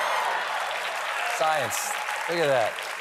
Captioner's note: cheers and applause